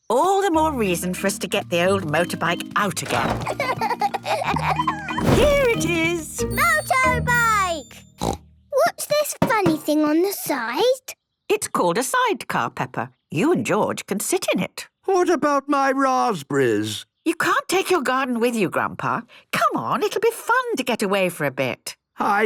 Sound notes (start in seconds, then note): 8.2 snort